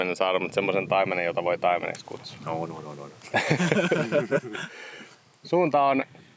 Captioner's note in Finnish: naurua